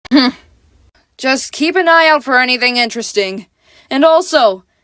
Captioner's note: scoffs